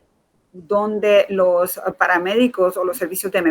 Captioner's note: speaking in Foreign Language